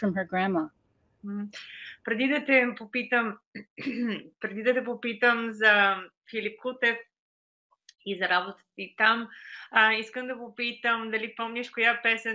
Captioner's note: foreign Language Spoken